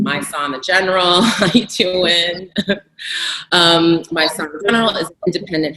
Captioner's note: laughs